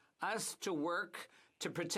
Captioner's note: speaking French